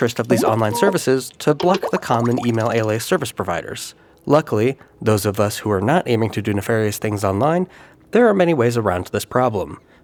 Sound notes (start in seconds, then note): 1.6 button clicks